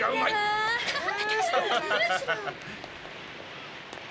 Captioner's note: Laughter from Kinjō and others